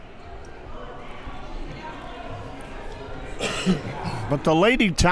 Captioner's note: crowd murmuring